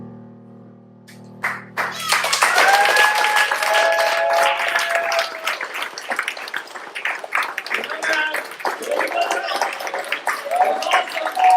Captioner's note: applause